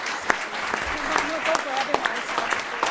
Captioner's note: applause